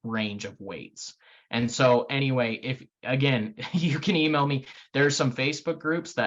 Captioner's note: laughing